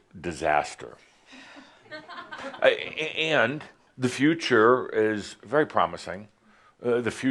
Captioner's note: some chuckles, she sighs